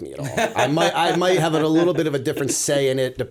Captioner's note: laughter